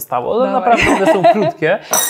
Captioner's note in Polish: śmiech